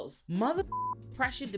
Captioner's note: beep